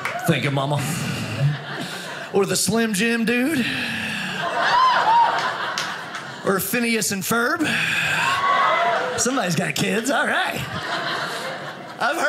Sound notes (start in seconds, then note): 4.2 audience laughing